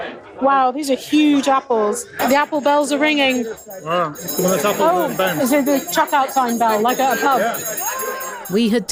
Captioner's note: bell rings